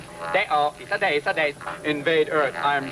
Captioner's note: Robin speaking in foreign language